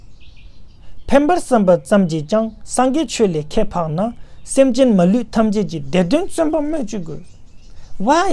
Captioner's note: tibetan